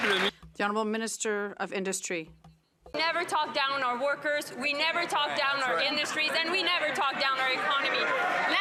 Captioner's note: some Applause